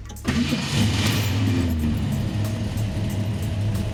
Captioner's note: car roars to life